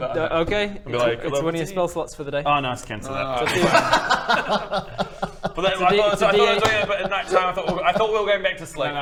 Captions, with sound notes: Okay - it's one of your spell slots for the day - and be like a little Ah no, cancel that *laughter* - I thought I was doing it at night time - it's a d8 I thought we were going back to sleep